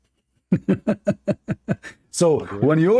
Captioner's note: Ketawa